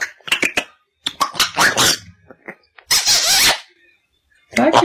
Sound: kissing smackingly

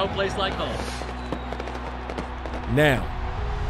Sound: fireworks crackling

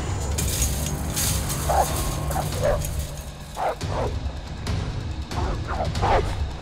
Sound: gate rattles; dog barking; frenetic music

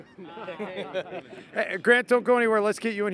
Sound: laughing

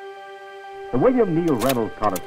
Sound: slide clicks

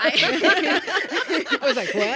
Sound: laughing

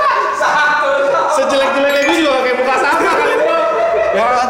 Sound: laughing

